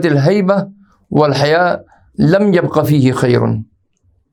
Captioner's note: arabic